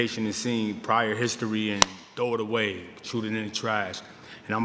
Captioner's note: claps hands